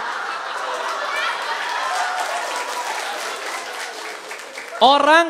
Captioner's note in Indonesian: tepuk tangan